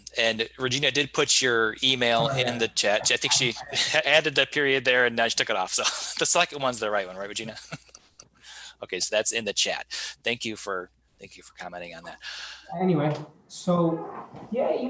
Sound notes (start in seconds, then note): 7.4 giggling; 7.5 laughing